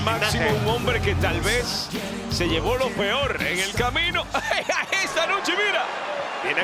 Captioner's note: laugh